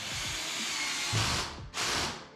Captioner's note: drill whirring